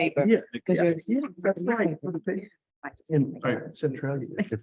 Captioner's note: trustees chatting